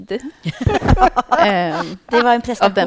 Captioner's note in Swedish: skratt